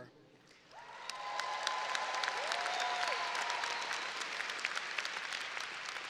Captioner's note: audience cheering and applauding